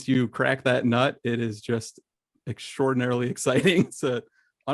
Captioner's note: laughs